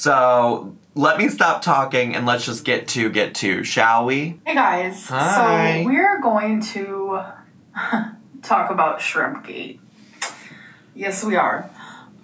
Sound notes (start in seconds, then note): 7.7 laughs; 10.2 smacks lips